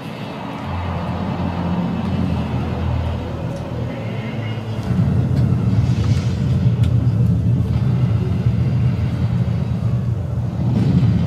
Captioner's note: rocket starting noise